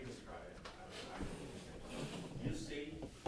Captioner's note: background Discussion